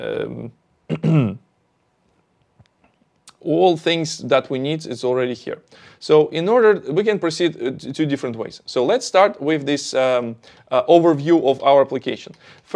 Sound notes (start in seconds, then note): 0.9 clears throat